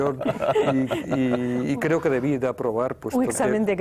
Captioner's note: ríen